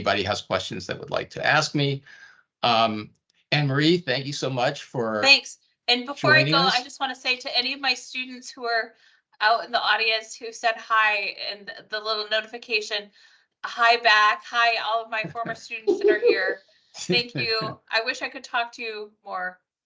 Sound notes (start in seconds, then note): 15.8 laughing